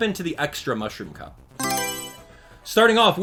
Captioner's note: Mario Selection Sound